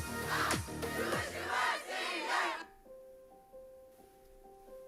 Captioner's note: crowd cheering